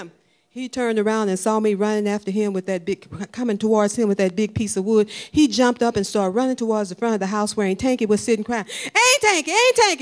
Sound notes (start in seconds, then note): none